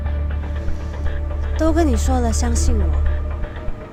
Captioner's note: in Mandarin